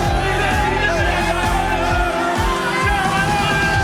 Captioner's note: players celebrating